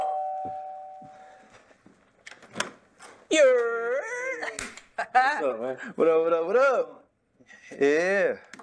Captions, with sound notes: [Door open] Yeah. What's up man? What up, what up, what up. Yeah...